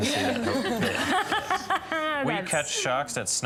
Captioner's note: laughter